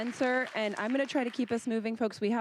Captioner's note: applause